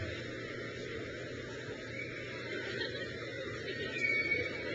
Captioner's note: crowd cheers; graduate laughs